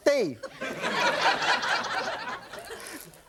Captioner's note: laughter